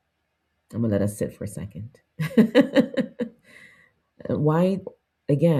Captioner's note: laughs